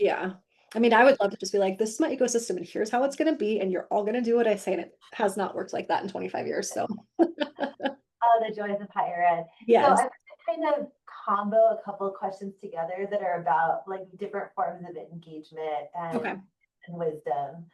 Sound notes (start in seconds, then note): 7.2 laughing